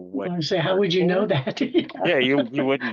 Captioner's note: laughs